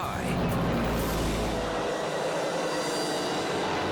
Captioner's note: engines roar